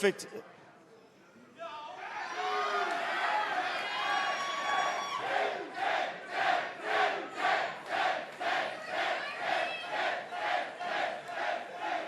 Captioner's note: crowd cheering